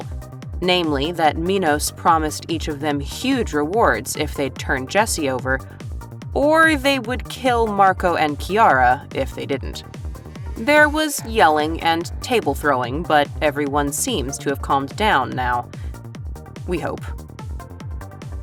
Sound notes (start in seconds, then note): none